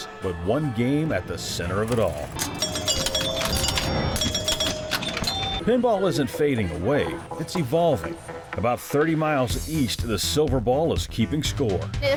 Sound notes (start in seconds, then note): 1.8 pinball chiming